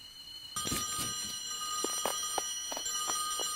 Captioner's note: phone rings